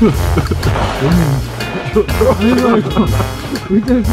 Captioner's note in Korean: 웃음소리